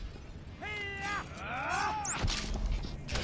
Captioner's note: yelling